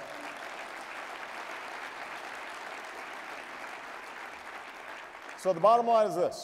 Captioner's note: applause